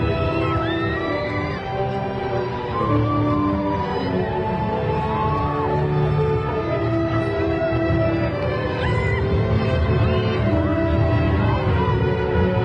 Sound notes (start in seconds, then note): 2.9 graduation music continues; 8.6 crowd cheering